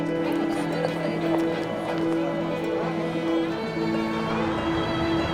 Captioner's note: background talking; soft orchestral